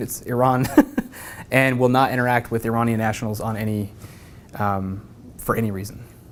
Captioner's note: laugh